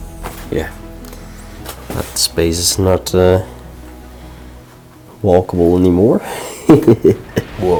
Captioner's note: laughs